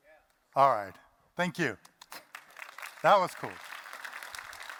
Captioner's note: applause